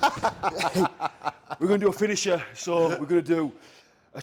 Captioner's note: laugh